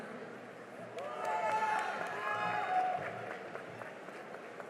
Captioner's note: cheering and applause